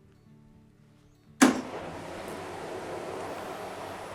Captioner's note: pump on